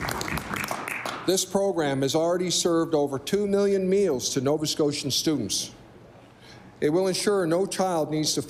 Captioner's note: applause